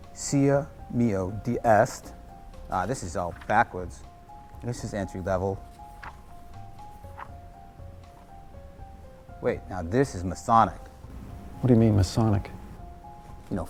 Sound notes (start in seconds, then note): 0.2 David speaking in foreign language; 5.6 paper rustling